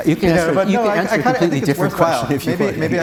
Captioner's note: audience Chattering